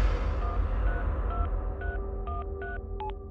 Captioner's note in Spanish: Sonido al marcar